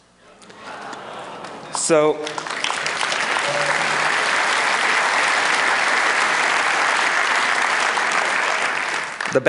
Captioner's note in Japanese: 拍手